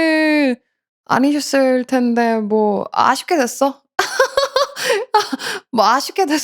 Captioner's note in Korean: 웃음